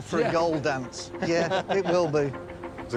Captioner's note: laughter